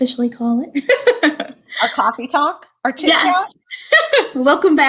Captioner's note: laughter; laughter